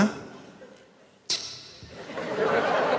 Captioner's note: annoyed reactions